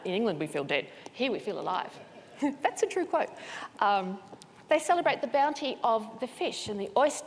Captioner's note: laughter